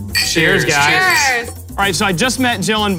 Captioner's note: in Unison